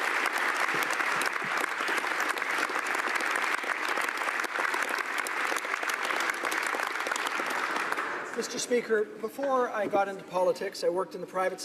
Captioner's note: applause